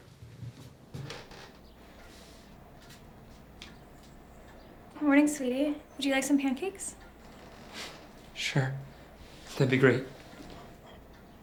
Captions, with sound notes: [floor creaks] Morning sweetie Would you like some pancakes? Sure that'd be great